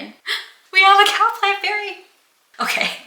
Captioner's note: gasp